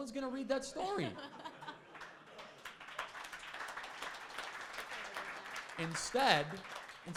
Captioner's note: crowd laughing; crowd applauding